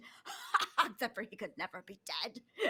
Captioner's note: laughs